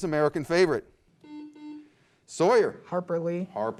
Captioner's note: beep